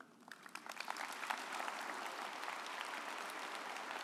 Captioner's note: audience applauding